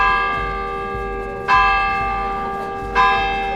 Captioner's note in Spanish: campanas